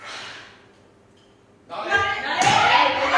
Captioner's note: blows out light with audible exhale